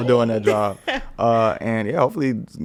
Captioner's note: podcaster chuckling